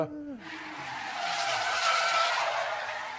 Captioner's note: car drifts